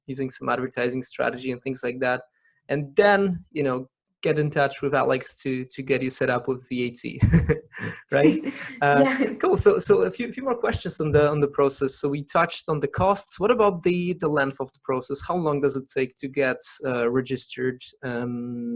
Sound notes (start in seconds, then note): 7.2 laughing